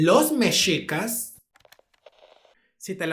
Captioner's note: Static